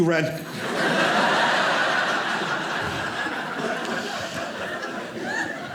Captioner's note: audience laughing